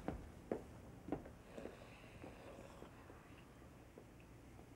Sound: Elmer snores

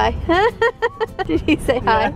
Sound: laughs

